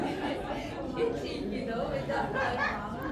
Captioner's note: crowd chattering